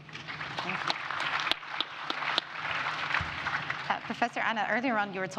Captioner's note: audience applauds